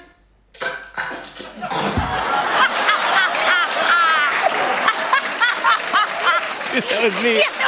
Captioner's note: laughter and applause